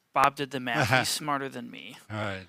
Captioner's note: laughs